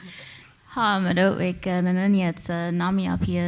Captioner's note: speaking Comanche